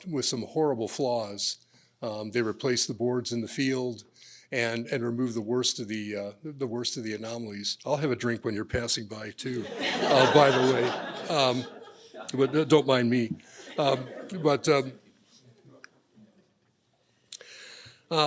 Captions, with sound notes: with some horrible flaws. They replaced the boards in the field and removed the worst of the anomalies. I'll have a drink when you're passing by, too. [LAUGHTER] By the way, don't mind me.